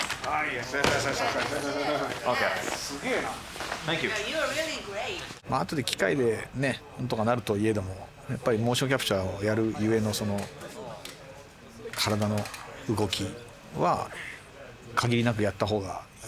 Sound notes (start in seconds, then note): 3.1 in English